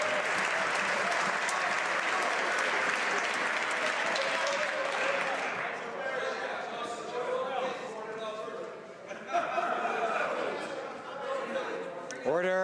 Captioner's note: some Applause